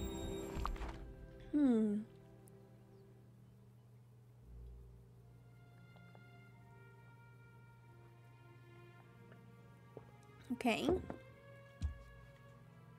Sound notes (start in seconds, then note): 10.8 mug Thunk